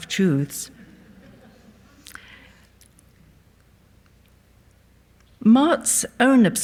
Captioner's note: audience laughs softly